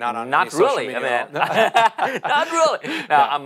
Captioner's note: laughs